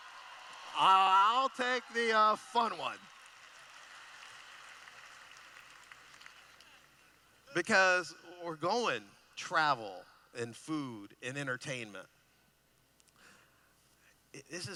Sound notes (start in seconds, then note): 3.4 applause